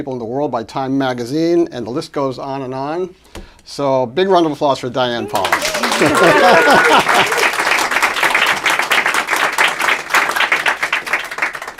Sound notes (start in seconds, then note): 5.3 applause